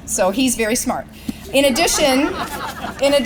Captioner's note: laughter